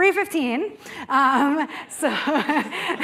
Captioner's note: laughter